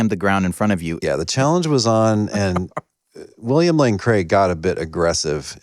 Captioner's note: laughter